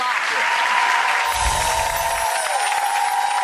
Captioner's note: sparkling sound; crowd cheering